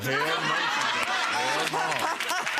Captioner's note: laughing